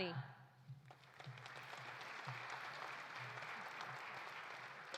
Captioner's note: audience applauding